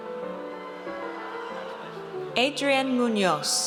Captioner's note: audience cheers